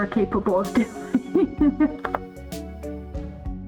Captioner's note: laughing